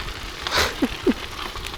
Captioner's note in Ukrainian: сміх